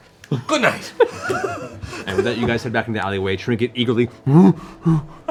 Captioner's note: bear grunts